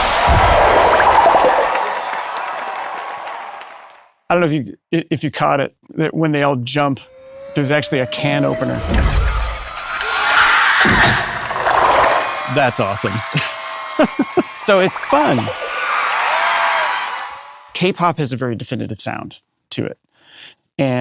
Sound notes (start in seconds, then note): 0.2 bubble popping; 10.0 soda can popping; 15.9 audience cheering